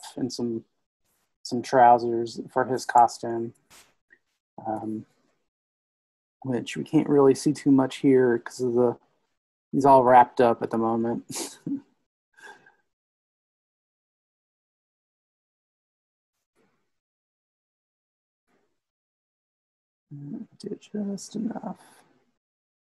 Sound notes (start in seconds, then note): 11.2 laughs